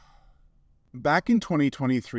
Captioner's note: sigh